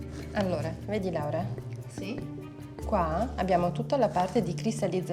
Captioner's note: speaking in foreign language